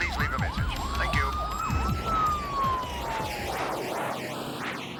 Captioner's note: sirens wailing